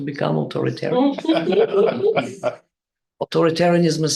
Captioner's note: group laughing